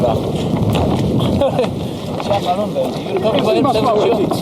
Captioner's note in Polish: śmiech